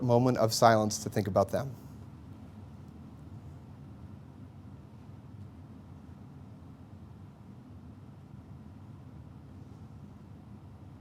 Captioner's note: moment of Silence